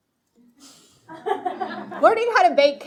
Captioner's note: speaking foreign language; audience laughing